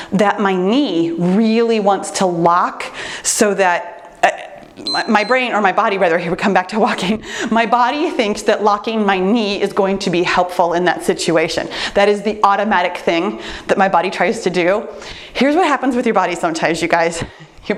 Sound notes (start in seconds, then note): 4.8 timer beeps